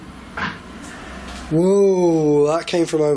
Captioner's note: thunk